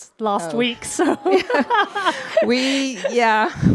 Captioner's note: both laugh